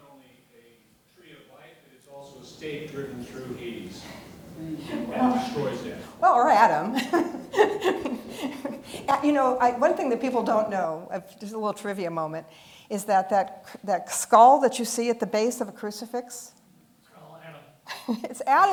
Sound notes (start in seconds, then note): 6.6 laughs